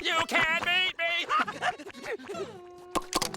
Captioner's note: panting